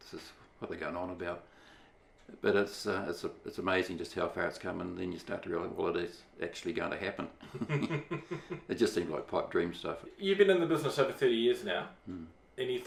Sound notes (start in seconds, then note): 7.4 laughs